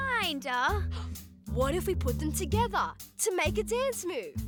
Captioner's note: gasps